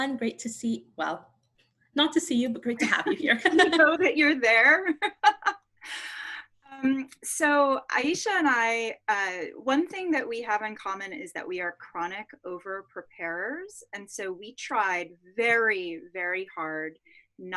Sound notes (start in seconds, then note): 2.9 both laughing; 5.9 laughs